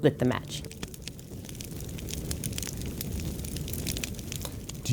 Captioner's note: fire crackling